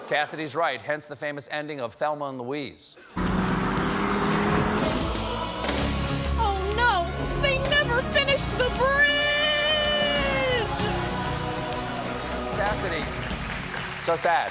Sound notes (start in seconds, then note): 1.5 audience reacts; 1.5 booing